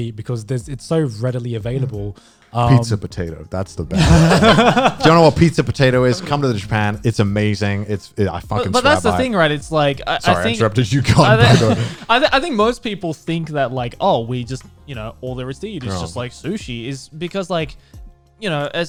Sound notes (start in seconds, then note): 3.9 guys laughing